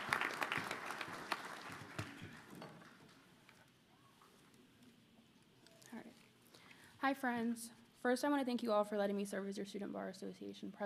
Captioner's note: cheers and applause